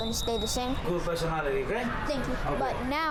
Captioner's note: man speaking foreign language